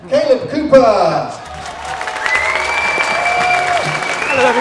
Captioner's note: applause